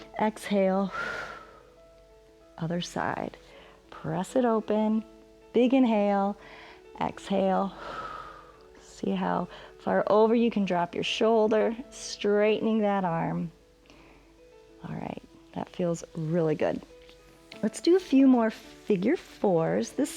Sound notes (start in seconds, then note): 0.9 exhales; 6.4 exhales